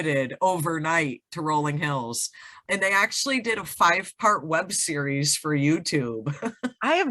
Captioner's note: giggles